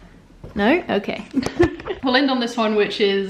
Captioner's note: laughs